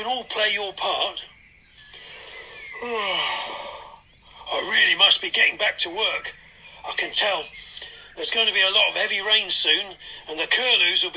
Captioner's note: yawns